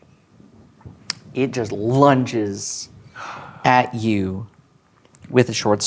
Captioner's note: gasps